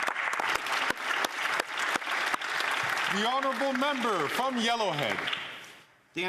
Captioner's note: some Applause